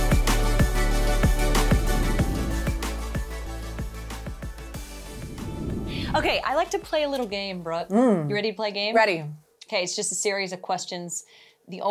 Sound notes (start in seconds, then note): 4.8 air whooshing